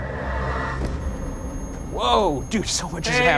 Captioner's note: REM pod beeping